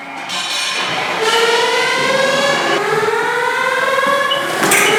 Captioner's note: alarm wailing